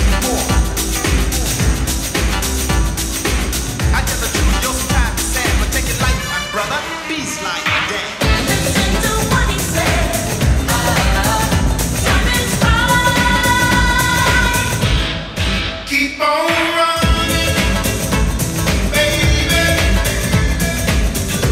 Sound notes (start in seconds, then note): 2.2 funky dance music; 3.2 audience clapping